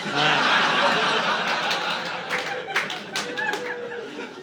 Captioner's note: laughter